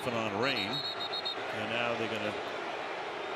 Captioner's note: whistle